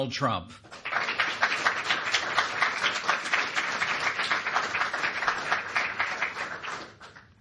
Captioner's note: applause